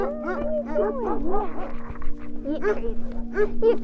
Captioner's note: dogs barking